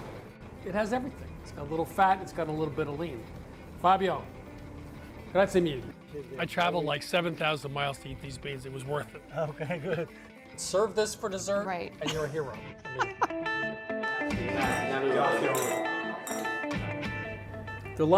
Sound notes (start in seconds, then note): 4.3 speaking in foreign language; 12.8 woman laughing; 14.1 upbeat music; 14.5 glasses clinking